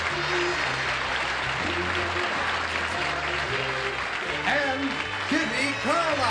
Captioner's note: applause